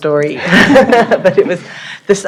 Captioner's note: laughter